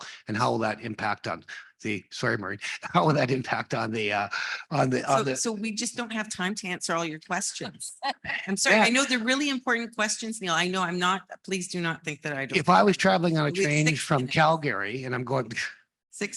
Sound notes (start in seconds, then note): 2.6 laughs; 7.6 laughs